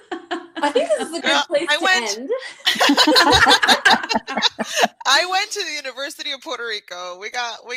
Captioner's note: laughter; laughter